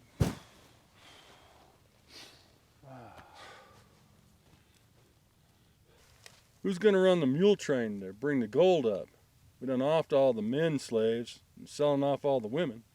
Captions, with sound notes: (corpse thuds) (men sigh) Who's gonna run the mule train to bring the gold up? We done offed all the men slaves and sellin' off all the women.